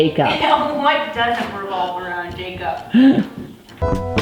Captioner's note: giggles